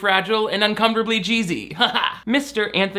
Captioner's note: laughs